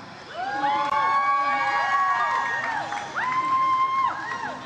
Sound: audience cheers

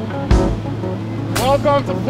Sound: traffic sounds

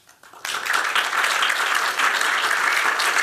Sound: applause

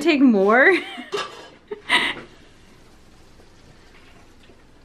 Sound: laughing

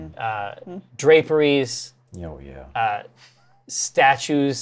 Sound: laughs

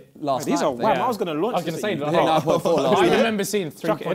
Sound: crowd mumbling

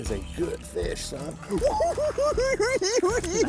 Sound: cackling

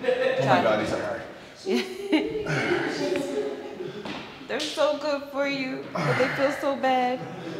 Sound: laugh

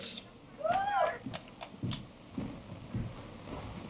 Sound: cheering

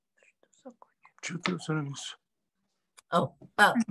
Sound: in Russian

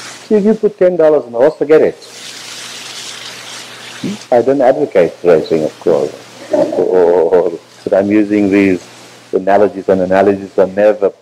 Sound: laughter

